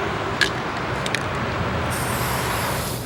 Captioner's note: spray paint can rattles; spraying